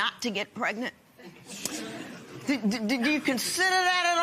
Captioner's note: laughter